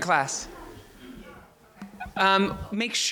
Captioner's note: crowd murmurs